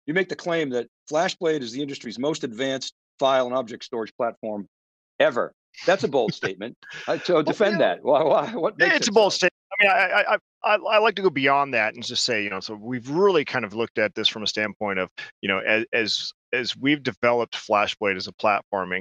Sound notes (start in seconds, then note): 9.5 chuckles